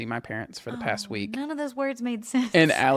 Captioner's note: laughs